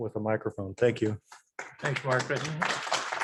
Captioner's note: audience applauds